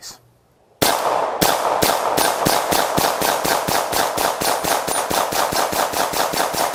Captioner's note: rapid gunshots